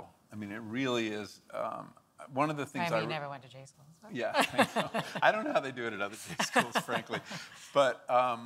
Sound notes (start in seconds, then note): 4.4 laughs